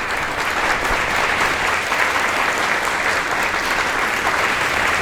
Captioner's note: applause